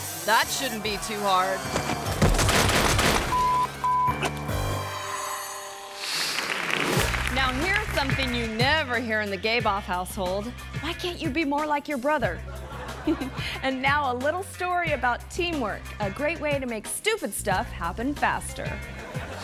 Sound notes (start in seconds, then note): 1.6 dirt bike thuds; 3.3 beep